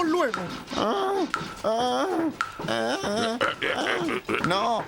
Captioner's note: Balón von Bola moaning in pain